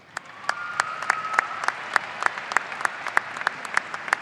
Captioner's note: audience cheering